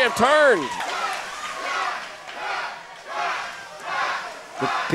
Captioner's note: crowd